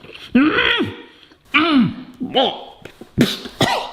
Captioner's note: laughs; grunts; coughs